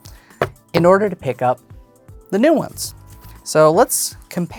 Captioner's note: thumping cards